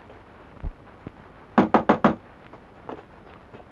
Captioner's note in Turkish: Kapı çalma sesi